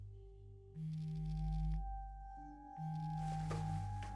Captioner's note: phone buzzing